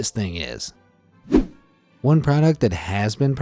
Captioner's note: image whooshing